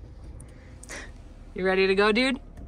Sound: car starts

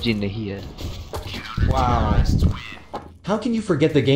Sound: radio

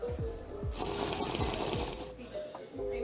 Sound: watering sound

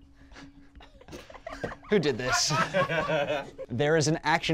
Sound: group laughs

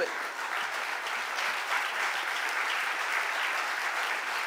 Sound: audience applauding

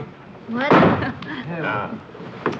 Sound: Margot giggling; chuckles

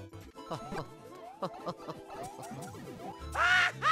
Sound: Luigi chuckles to himself, potentially scheming up something horrible

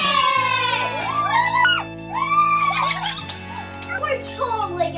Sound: cheers

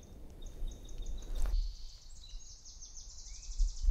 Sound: bird song

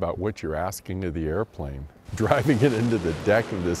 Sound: chuckling

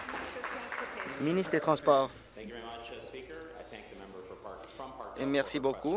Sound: applause

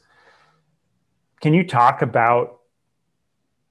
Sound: breath

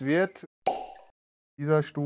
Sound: pop

